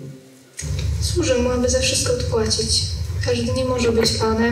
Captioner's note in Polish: Po polsku